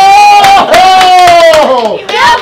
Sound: clapping

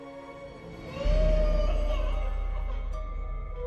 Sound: baby crying

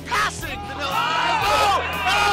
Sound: shouting

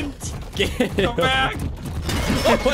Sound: giggle

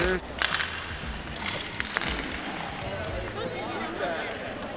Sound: hockey sticks hitting the ice

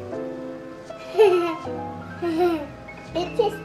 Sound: laughs

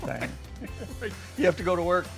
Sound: both laughing

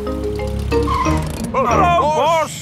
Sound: brakes squeal

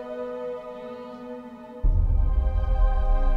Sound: birds chirping

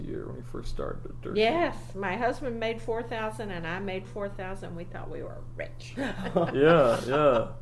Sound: laughs

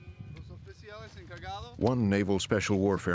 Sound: speaking in foreign language; voiceover

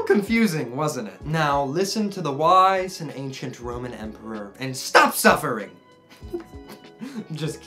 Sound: laughing

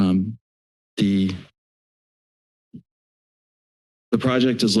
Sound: silence

